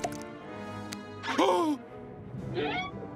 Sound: gasping

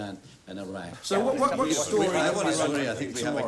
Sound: everyone chattering

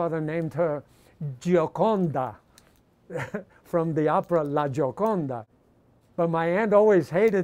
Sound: chuckles

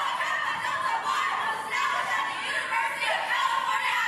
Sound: foreign language chanting

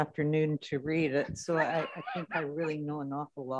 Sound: mayor laughing

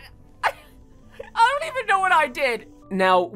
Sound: laughing

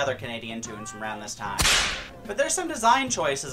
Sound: whipcrack

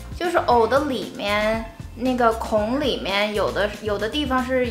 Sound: speaking in foreign language

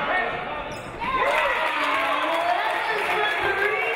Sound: audience cheering

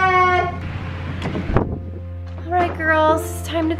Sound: handle clicks

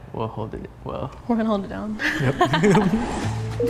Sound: laughs

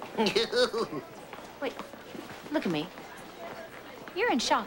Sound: chuckling like johnny

